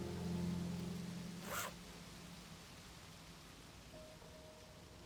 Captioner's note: bag unzips